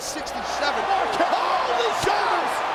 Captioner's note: audience cheers